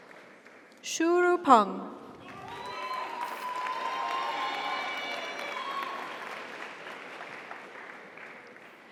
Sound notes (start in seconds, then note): 2.2 audience applauds; 2.2 audience cheers